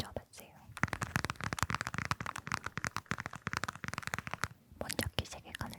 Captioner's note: tapping, tapping